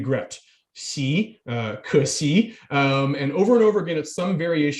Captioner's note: speaking in foreign language